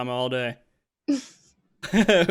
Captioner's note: laughs